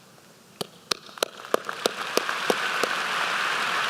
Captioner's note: applause